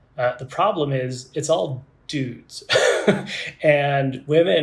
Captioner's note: laughs